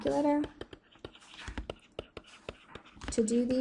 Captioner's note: pencil scratching